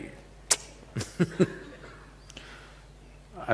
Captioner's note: laughs